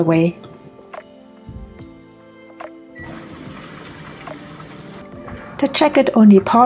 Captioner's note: sound of controls beeping and water